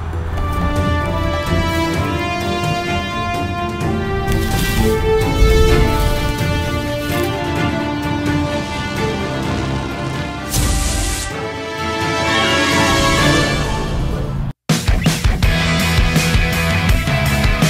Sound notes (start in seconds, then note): 4.0 leaves crunching; 14.7 upbeat rock music